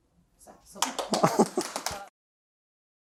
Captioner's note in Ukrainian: оплeски